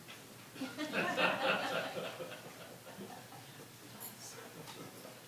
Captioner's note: audience laughing